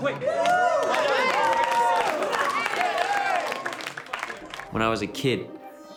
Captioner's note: cheering and clapping